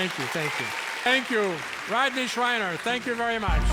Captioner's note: audience claps